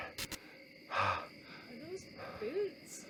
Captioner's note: glitch